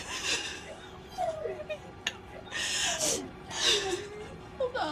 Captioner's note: crying